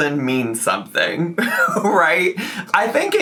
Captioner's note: laughing